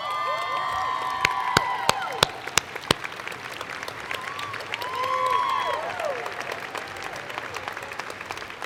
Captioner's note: cheers and Applause